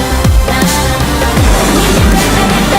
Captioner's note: explosion